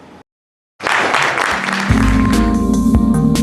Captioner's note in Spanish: aplauso